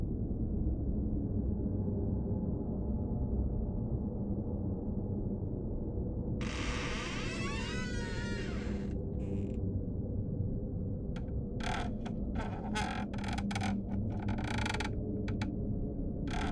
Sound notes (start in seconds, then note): 6.4 door creaking; 11.6 floor creaking